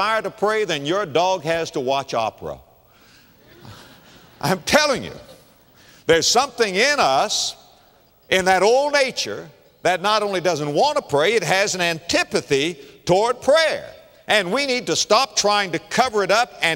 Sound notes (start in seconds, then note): 3.4 laughter